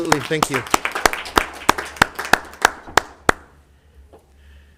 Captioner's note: applause